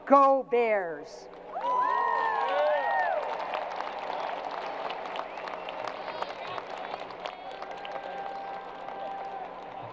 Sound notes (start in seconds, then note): 1.4 crowd applause